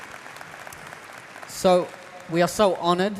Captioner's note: applause